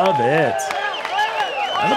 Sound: applause

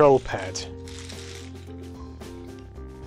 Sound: More plastic crinkle sounds that a packet of Lucky Charms

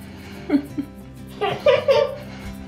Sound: chuckles; laughs

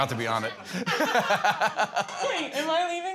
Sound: laughter

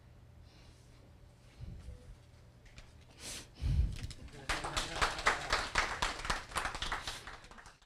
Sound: audience applause

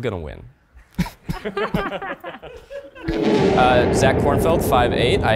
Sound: group laughing

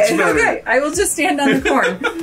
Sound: laughs

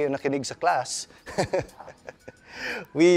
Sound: chuckles

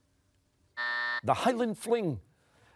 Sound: buzzer sounding

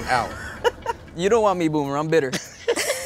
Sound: laughing

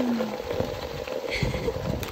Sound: laughs

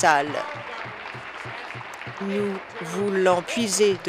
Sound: applause

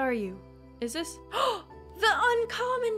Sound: gasp

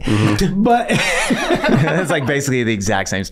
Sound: all laughing

